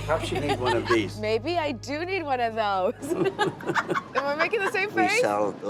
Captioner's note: laughs